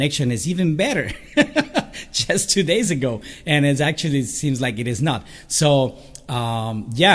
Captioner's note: laugh